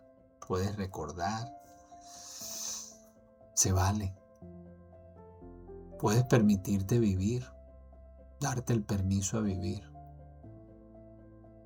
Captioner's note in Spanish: resoplido